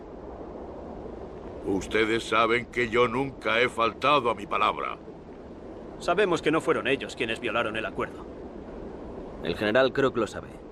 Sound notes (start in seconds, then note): 1.7 Victorio speaks Spanish